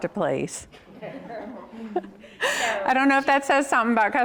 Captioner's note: all laugh